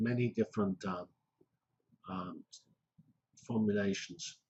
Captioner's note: pause